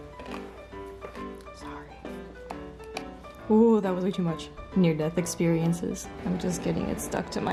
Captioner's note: cranch cranch